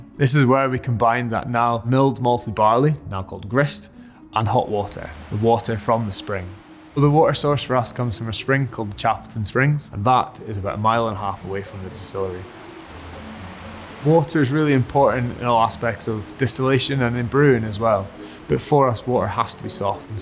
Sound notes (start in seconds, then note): 13.1 water flowing